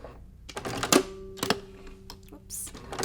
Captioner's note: machine clicks